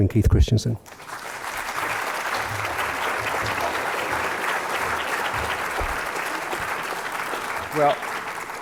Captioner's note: applause